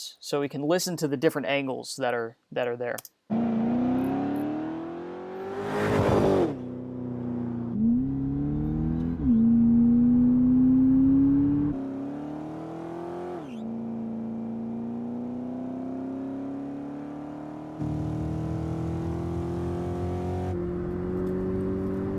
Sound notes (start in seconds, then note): 3.5 engines revving; 6.7 engines rumbling; 7.9 engines revving; 11.9 engines revving; 17.9 engines revving